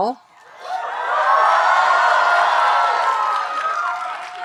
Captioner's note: audience cheering